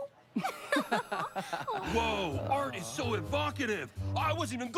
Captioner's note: both lauaugh